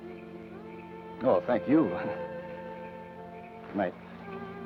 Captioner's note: chuckles